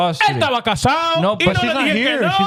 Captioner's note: speaking In Foreign Language